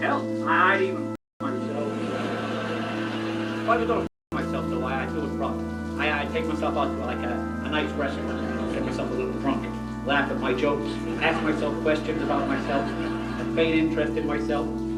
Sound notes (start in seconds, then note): 1.6 laughter